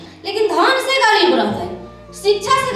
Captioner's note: in Bajika